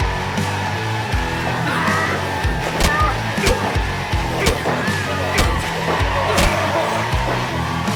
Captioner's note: relentless punch after punch echoes out into the audience